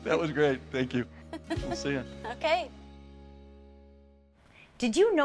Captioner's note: laughing